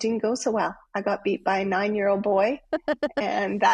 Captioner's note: laughing